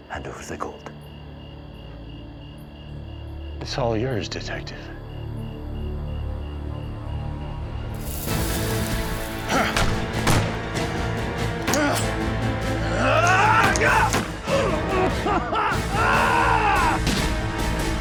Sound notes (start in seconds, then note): 9.7 gunfire; 13.1 gunfire; 13.1 yelling; 15.0 groaning; 17.0 gunshot